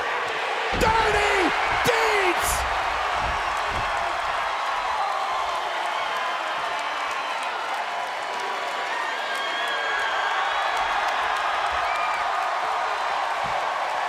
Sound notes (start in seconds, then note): 4.1 applause